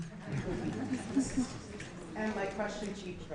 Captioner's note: laughing